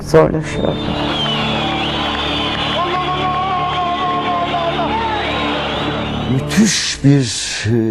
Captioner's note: applause, whistling